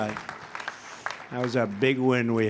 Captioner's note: applause